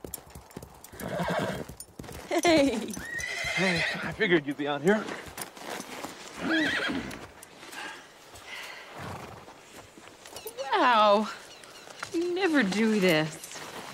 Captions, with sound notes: (horse whinnies) - Hey (chuckling)! (horse whinnies) - Hey. I figured you'd be out here. - Wow! You never do this.